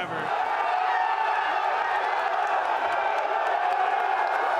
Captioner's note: fans cheering